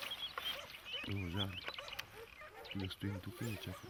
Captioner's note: dog barking